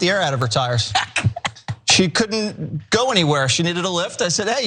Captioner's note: laugh